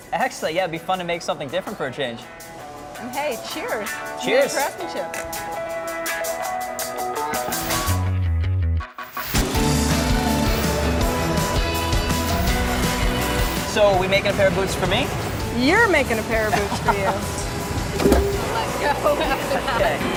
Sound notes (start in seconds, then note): 6.8 retro rock music; 16.5 laughs; 17.8 machine clunks; 18.4 laughing